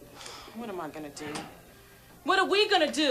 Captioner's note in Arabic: تنهدات